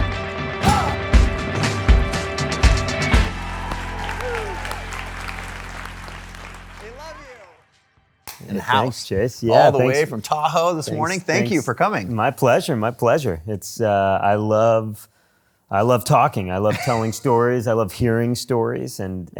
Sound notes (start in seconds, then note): 3.1 crowd applauds